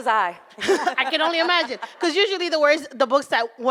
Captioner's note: laughing